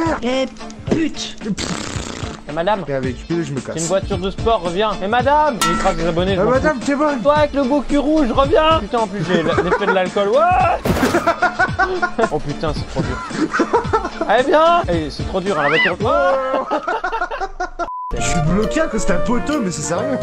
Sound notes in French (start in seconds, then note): 10.8 accident + rires